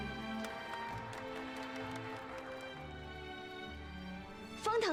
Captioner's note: applause